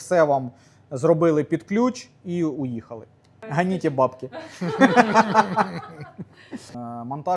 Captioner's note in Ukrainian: сміх